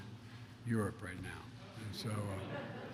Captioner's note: laughter